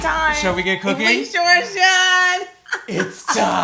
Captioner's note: laughs